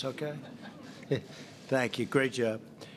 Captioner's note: laughter